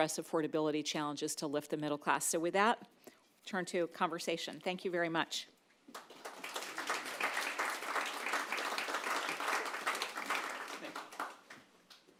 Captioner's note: applause